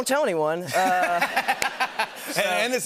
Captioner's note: laughter